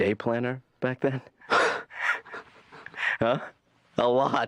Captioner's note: laughing